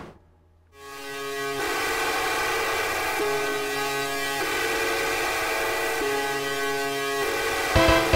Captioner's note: spooky electronic sound